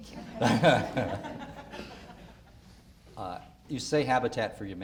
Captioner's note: audience laughter